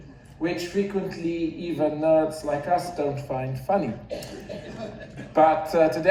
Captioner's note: audience laughs